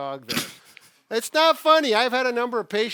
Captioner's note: laughs